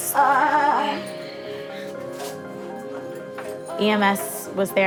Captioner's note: moaning